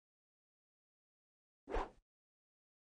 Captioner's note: swooshes